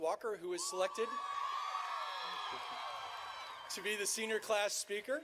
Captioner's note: audience cheering